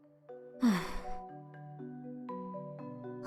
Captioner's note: sigh